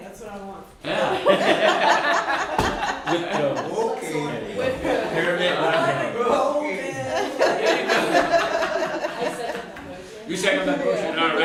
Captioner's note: laughter